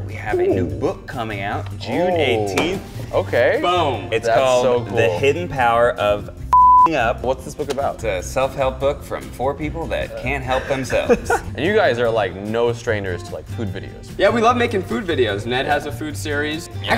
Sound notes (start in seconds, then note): 6.5 beep; 10.4 laughs